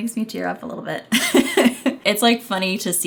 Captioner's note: laughing